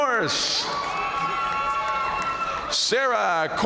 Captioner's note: audience cheering and applauding